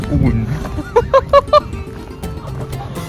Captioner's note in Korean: 민망한 웃음